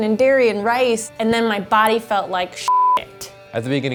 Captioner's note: beep